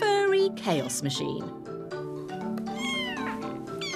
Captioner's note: kitten meows